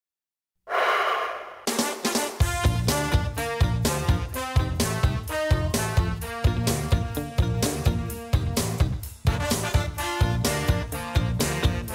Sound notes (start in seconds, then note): 0.6 band member exhaling; 1.6 upbeat ska music